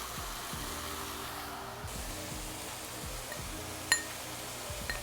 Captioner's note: mushrooms sizzling